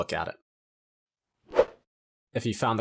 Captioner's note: graphics whooshing